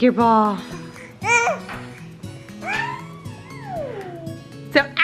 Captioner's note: baby coos